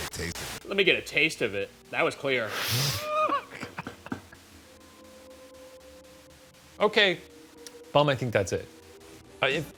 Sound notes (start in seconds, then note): 2.8 laughs; 3.9 white noise